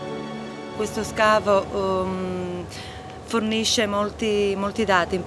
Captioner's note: speaking Italian